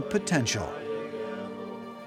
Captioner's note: chanting